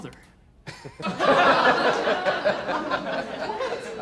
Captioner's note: laughter